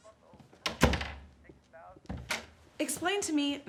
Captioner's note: door bangs